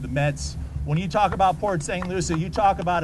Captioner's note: applause